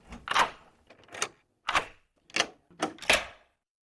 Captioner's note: clicking